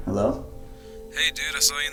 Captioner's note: Greg's voice Through Phone